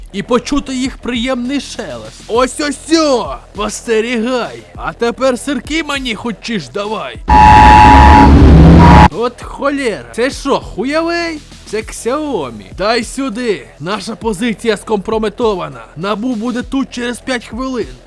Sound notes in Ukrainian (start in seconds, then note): 7.3 несамовитий звук оповіщення ДСНС України